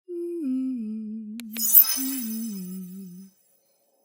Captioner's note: woman humming